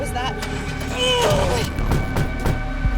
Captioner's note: Wendy groans in frustration